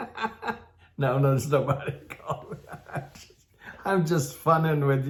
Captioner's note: laughs